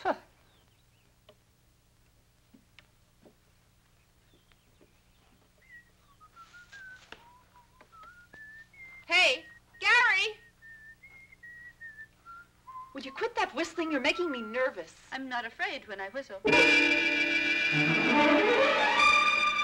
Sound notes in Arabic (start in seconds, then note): 0.2 ليندا تسخر; 5.6 صفير; 16.5 موسيقى مشوقة